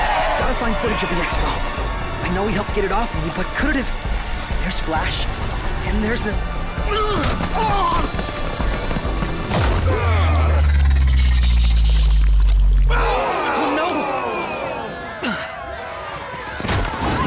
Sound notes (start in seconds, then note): 6.9 grunts